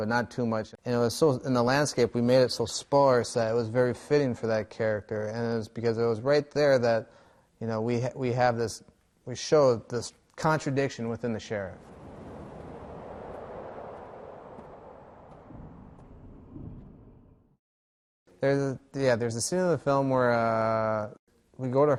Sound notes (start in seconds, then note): 15.2 road noise